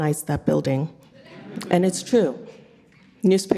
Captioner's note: audience laughing